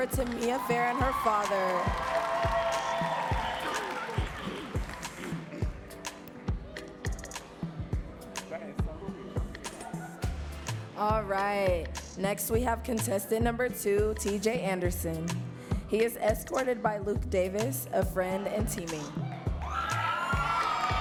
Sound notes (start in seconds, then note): 4.3 audience cheering and clapping